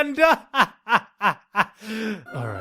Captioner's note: laughs